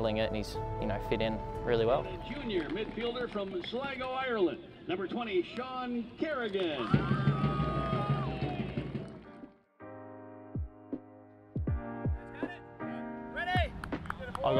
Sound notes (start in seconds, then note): 6.5 crowd cheers; 6.8 drum rolls; 9.7 chill music plays